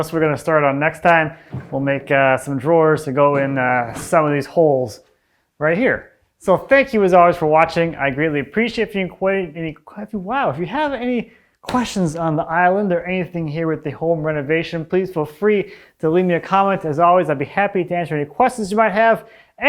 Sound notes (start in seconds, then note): 11.7 hand thwacking